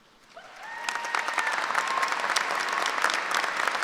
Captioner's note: applause